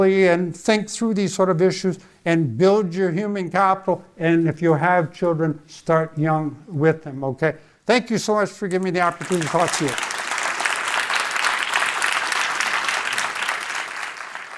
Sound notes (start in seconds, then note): 10.5 audience applauding